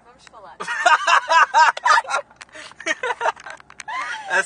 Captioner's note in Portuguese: Risos